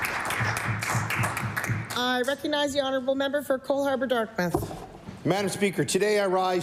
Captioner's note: applause